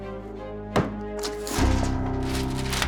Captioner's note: bangs table; papers fluttering